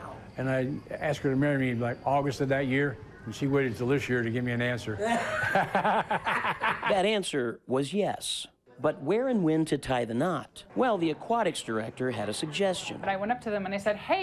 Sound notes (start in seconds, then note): 5.0 laughs; 5.0 group laughing